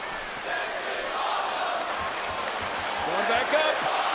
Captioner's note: audience cheering